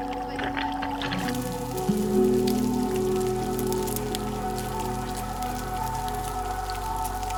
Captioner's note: light music continues; food sizzling